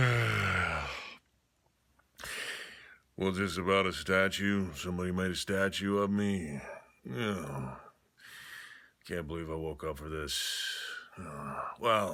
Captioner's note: loud yawn